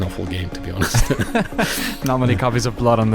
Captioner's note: laughing